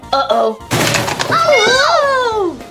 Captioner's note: boom